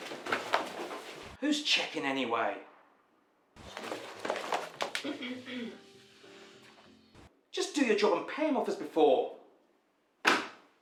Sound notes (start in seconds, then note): 5.0 throat clearing